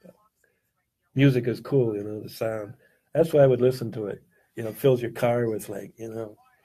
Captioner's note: talk radio